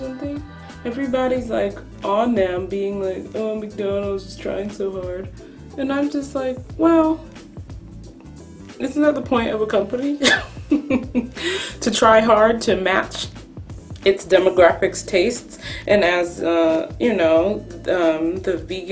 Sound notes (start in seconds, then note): 10.6 laughs